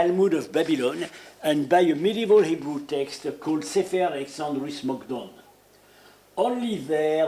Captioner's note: speaking in Hebrew